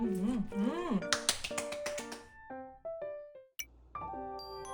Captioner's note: clap clap clap clap clap